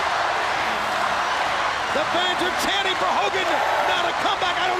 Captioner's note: crowd chattering